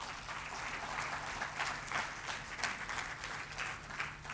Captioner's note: applause